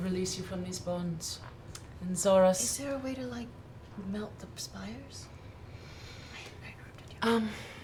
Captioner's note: whispers